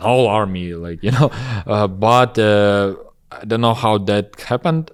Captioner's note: laughs